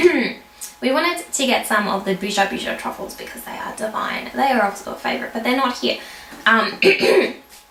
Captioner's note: coughs; coughs